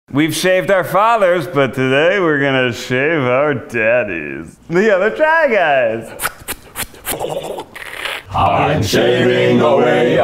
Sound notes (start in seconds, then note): 6.0 mimicking shaving sounds